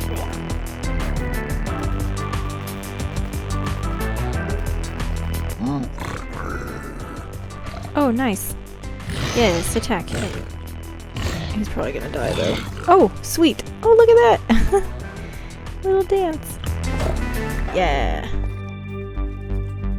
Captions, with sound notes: [Piglin growls] Oh nice! Yes, attack him. He's probably going to die though. Oh sweet! Oh look at that [laughs] little dance. Yeahhhh.